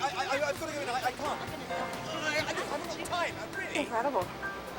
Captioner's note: arguing